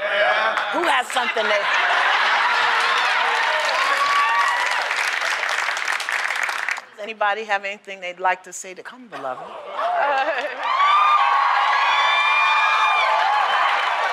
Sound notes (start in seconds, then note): 1.3 laughter; 4.5 cheering; 9.7 cheering